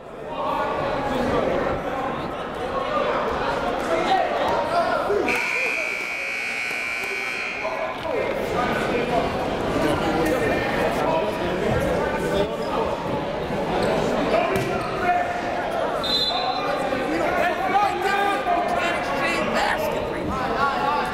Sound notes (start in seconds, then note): 0.6 crowd talking; 5.3 buzzer goes off; 16.0 whistle blows; 18.4 crowd talking